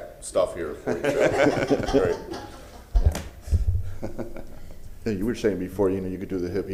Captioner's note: laughter